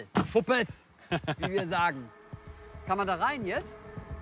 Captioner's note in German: Lachen